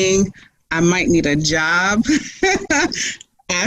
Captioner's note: laughs